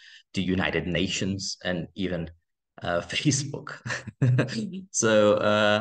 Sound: laughing

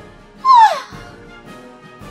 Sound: sighs

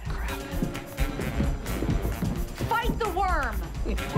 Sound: laughs

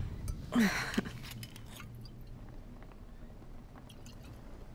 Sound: woman sighing

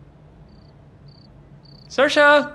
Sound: crickets chirp

